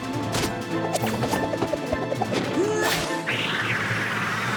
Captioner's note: whoosh! whoosh! whoosh!; whiffle!